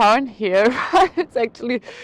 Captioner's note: laughs